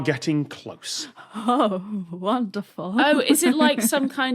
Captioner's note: shivers